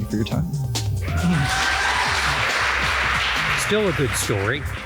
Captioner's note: audience cheering; audience applauding